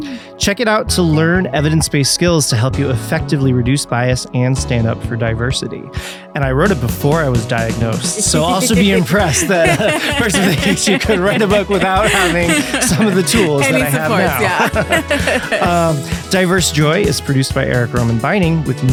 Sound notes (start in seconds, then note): 14.2 both laughing